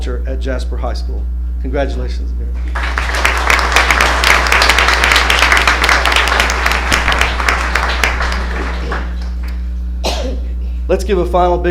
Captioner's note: applause